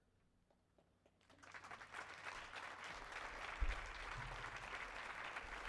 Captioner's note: audience applauding